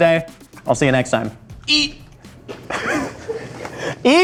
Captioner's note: laughs